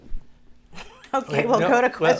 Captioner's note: chuckling